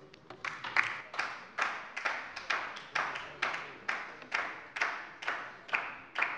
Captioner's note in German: Beifall bei der LINKEN